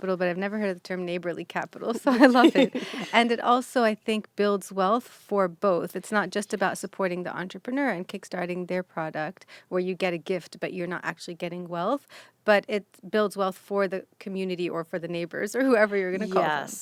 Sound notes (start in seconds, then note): 2.0 laughing